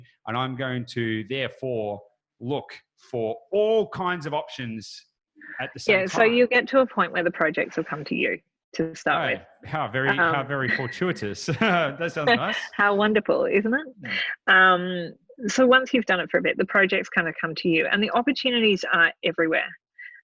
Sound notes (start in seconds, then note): 9.7 laughing